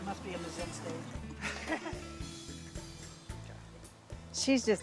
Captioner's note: chuckles